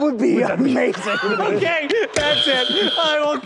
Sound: wheeze

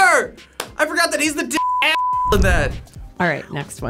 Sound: beep

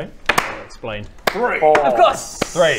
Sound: clap

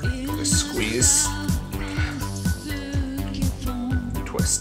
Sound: liquid drips

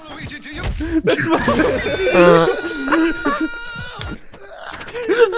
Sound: laughter

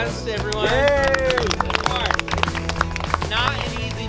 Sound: applause

